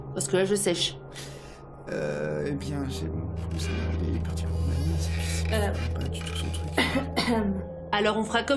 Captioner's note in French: marmonnements confus et toux gênée